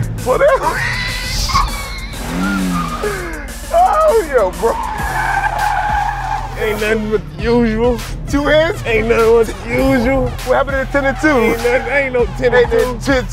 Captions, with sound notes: Slow down. [squealing] [Laughing] Oh, yo bro. Ain’t nothing but the usual. Two hands? -Aint nothing but the usual. -What happened to ten and two? Aint no… aint no ten and two.